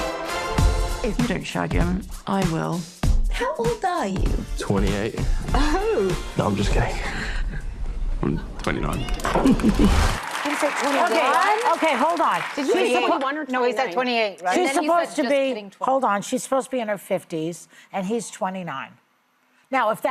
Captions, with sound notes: If you don't shut down, I will. How old are you? 28. Oh. No, I'm just kidding. 29. [ Cheers and applause ] Okay, hold on. Did you use the word "1" or "2"? No, he's that 28. She's supposed to be... Hold on. She's supposed to be in her 50s. And he's 29.